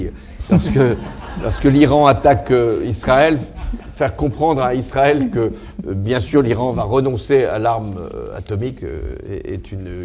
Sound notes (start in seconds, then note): 0.4 audience laughs